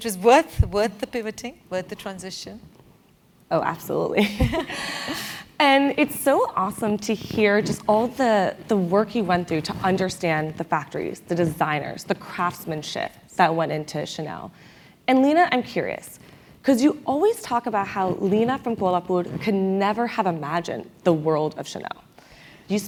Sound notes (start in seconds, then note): 4.2 laugh